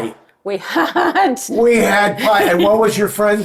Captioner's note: laughing